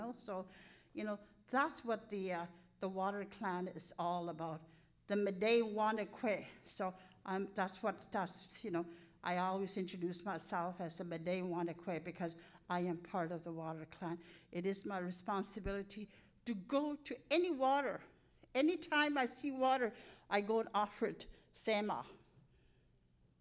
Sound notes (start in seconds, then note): 5.4 speaking in Cree; 11.1 speaking in Cree